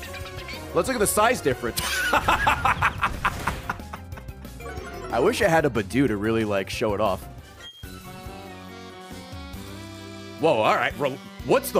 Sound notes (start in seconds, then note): 1.8 laughs